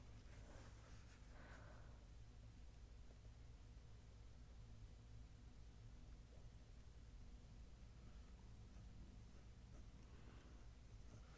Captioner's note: writing sounds